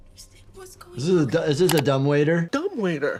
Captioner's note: video graphic clicks